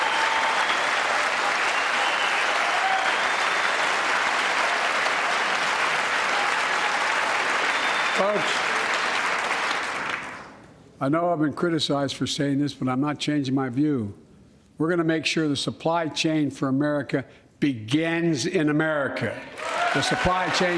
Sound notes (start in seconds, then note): 4.4 cheers and applause